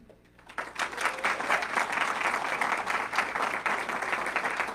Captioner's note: audience clapping